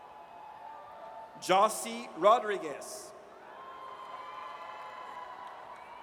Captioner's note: audience cheers